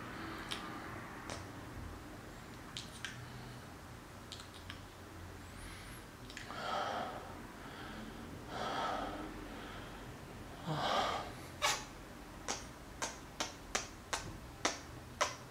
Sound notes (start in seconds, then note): 6.4 deep breath moan thing; 8.4 deep breath; 10.6 moan; 12.4 rapid fire kissing